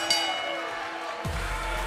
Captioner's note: bell ringing